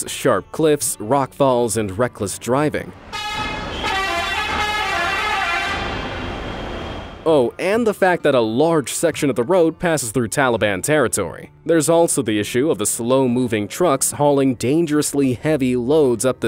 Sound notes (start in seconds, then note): 3.0 cars hooting